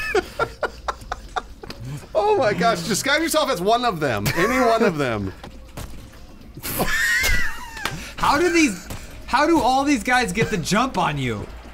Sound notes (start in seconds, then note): 0.0 laughing; 4.4 laughs; 6.9 wheezing